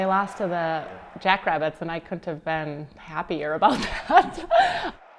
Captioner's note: laughs